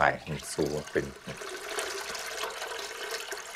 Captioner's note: splashing